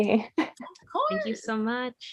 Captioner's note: laughs